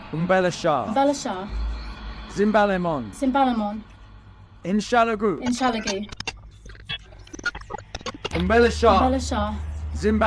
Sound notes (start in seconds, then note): 0.3 both speaking in foreign language; 2.4 Alan speaking in foreign language; 3.3 Emma speaking in foreign language; 4.8 Alan speaking in foreign language; 5.4 computer crackling; 5.6 Emma speaking in foreign language; 8.5 both speaking in foreign language; 10.1 Alan speaking in foreign language